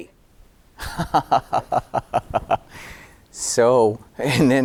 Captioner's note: laughing